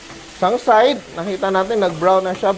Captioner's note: sizzle